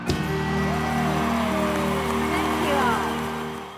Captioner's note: cheering and applause